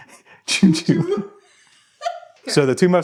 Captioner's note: laughing; laughs; wife laughs